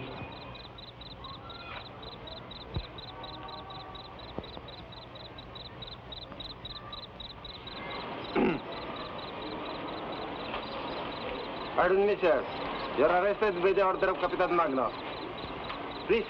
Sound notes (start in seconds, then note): 0.1 insects chirp; 8.3 man clears throat